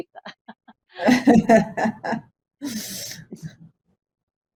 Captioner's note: all laugh